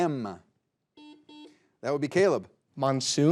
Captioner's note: buzzer buzzing